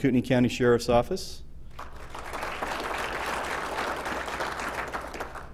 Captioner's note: applause